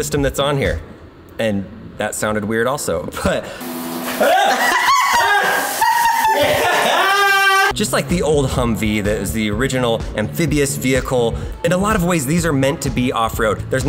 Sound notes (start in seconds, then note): 4.1 both laughing; 4.2 man yelps